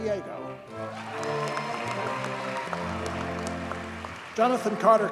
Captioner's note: audience cheers and applauds